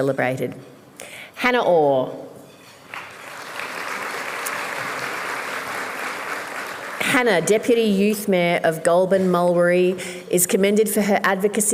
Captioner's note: applause